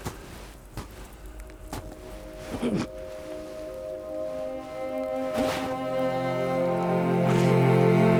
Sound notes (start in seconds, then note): 1.1 suspenseful music; 1.8 man groans